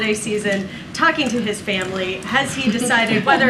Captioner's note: laughter